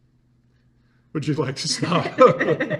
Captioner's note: all laugh